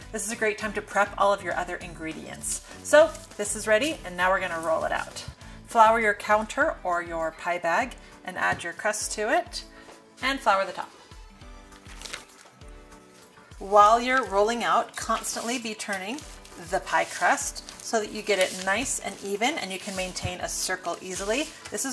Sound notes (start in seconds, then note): 12.0 pie bag ruffling